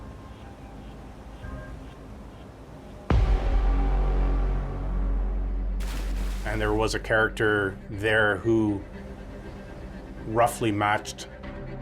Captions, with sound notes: (water splashes) And there was a character who roughly matched, Carlos's description.